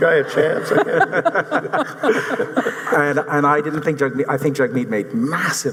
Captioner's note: audience laughing